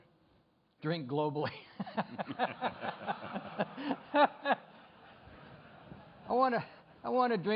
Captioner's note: laughter